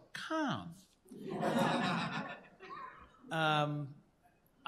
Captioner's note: laughter